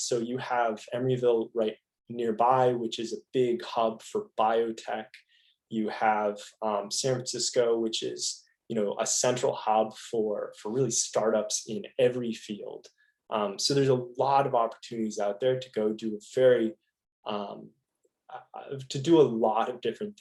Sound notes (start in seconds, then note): none